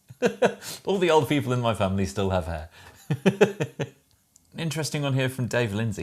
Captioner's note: laughs; laughs